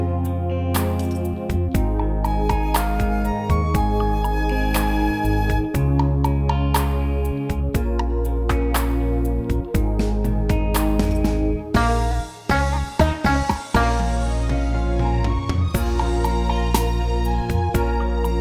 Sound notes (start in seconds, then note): 4.3 clap